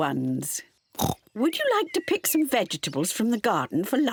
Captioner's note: oinks